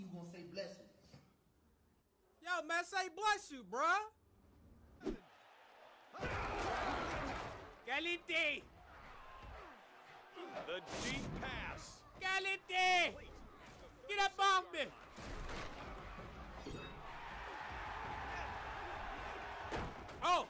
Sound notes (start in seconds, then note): 6.6 yelling; 18.4 yelling and cheering